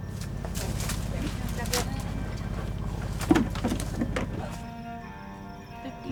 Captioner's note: people chattering quietly